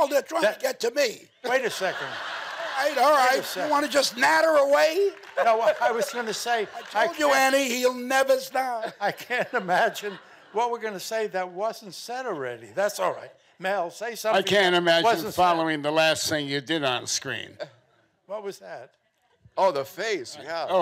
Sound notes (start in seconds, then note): 1.4 audience laughing